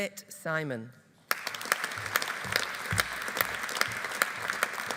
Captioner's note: audience applauding